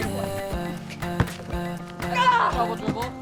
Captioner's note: yells